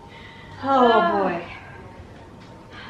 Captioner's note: both sighing